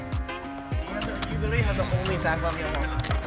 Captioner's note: background chatter